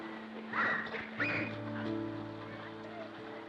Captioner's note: children shrieking happily